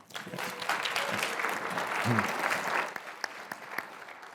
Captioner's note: applause